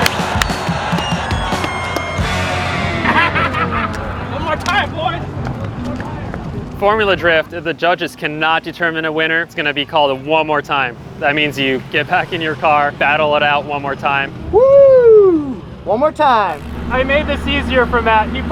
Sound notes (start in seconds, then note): 0.0 crowd claps and cheers; 2.4 laughing